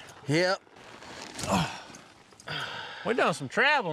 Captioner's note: all sigh